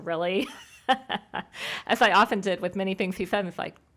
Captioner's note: laughs